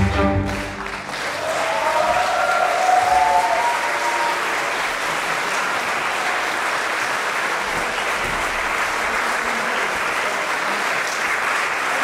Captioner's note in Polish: aplauz